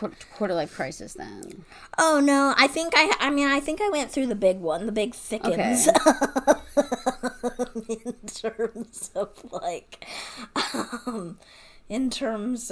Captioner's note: laughing